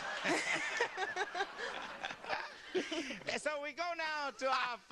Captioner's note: laughter